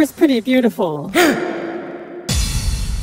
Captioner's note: gasp